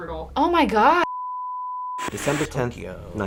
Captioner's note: beep